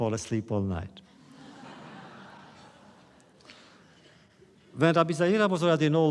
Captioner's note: laughter